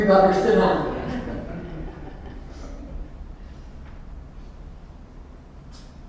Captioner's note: laughter